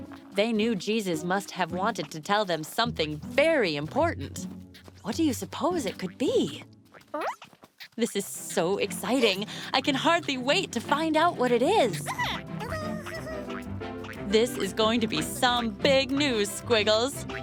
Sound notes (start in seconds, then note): 6.5 caterpillar noises; 17.2 caterpillar noises